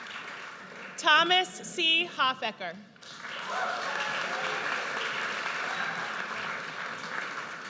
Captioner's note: audience cheers